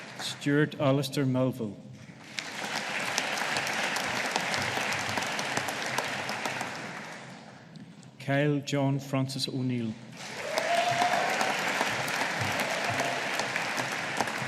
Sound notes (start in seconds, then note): 2.2 audience applauding; 10.2 audience applauding